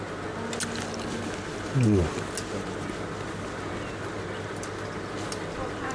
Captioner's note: slurping sound and murmuring of pleasure